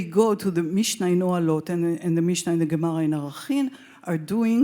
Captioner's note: speaks Hebrew